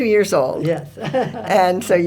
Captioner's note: laughs